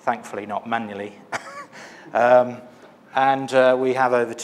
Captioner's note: laughs